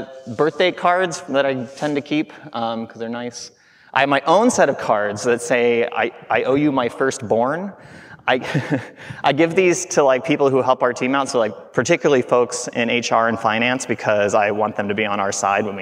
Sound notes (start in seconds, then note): 8.2 chuckling